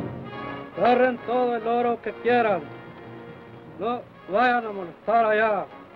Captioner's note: Chief speaks foreign language